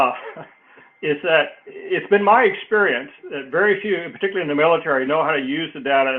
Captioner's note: laugh